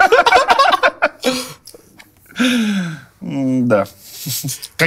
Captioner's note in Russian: смех